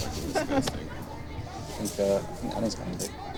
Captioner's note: chuckles